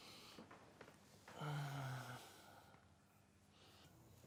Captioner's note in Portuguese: suspiro